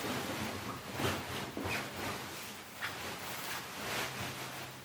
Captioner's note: fabric rustling